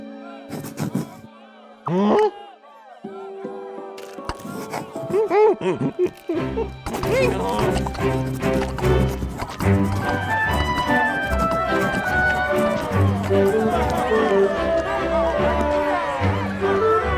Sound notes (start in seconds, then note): 2.1 gasps in surprise; 6.7 cheerful instrumental music; 13.8 people applauding